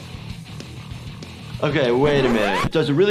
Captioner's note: record screeching